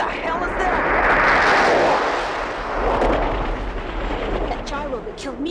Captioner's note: helicopter whooshing